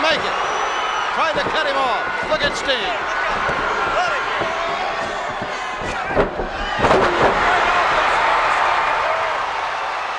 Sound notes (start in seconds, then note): 0.3 crowd shout; 3.3 crowd shout; 6.7 bodies slam; 7.5 crowd shout